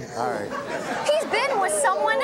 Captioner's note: audience laughing